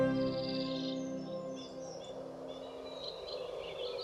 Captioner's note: birds chirping